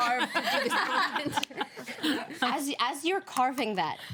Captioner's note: women laugh